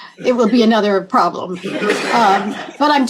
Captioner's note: laughter